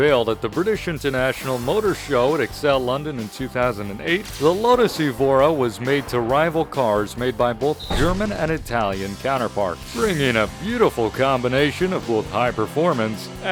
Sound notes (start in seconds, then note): 7.7 slam